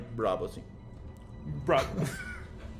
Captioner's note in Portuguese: Risos